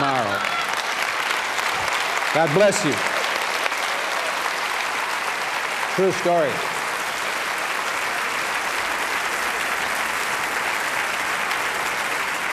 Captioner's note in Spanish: aplauso